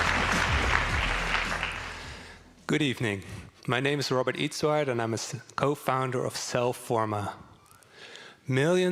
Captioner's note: applause